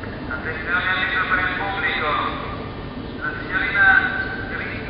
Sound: announcements in foreign language over intercom

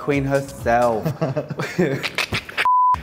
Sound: both laugh

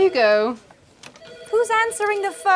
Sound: office phone ringing

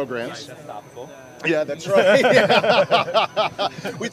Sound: laughs

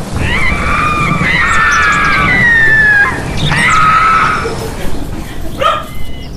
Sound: screaming

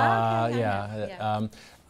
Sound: laughs

